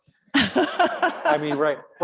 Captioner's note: audience laughing